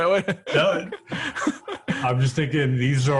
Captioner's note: laughs